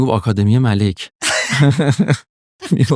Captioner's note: laughs